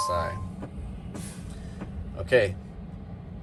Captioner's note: tractor beeps